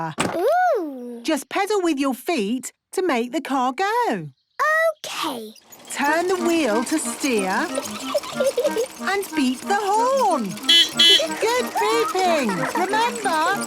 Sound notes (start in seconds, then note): 6.4 giggling; 10.3 beeping